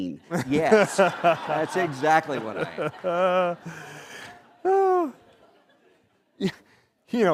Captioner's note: laughter